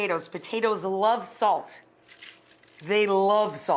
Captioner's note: spices crunching